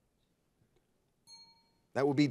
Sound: bell rings

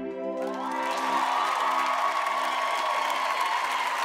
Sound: audience cheers

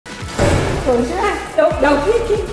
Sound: door banging

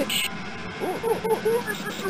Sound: Mario mocking Silver's catchphrase

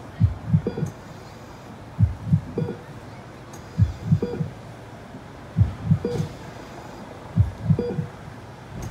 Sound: heart Monitor

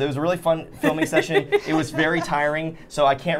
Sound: Safiya laughing

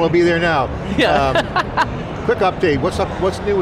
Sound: laughing

